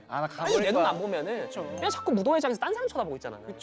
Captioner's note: sassy